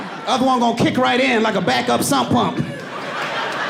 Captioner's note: audience laughing; laughs